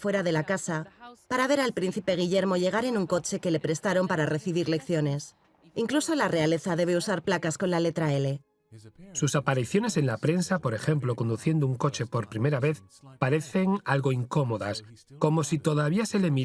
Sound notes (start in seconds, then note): 8.0 voiceover